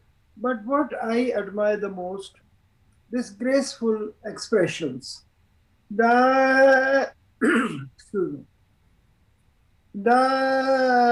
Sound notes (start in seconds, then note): 5.1 sings; 7.4 clears throat; 10.1 sings